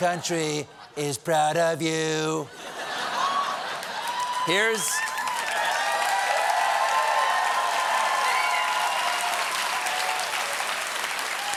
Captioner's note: cheers and applause